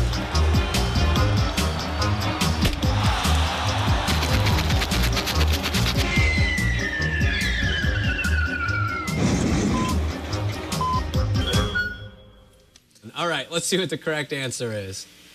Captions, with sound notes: [electronic beeping] ALL RIGHT, LET'S SEE WHAT THE CORRECT ANSWER IS.